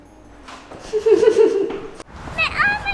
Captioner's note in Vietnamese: tiếng cười